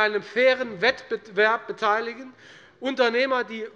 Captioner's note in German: none